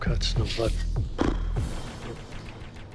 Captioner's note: raspberry